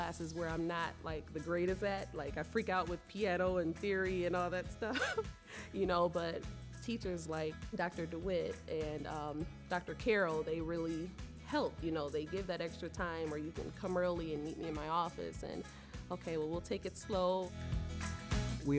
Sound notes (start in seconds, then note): 4.9 laughing